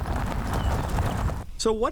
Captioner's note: tires rolling over dirt road